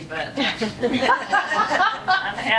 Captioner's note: laughing